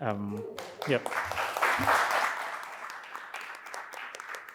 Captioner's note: audience clapping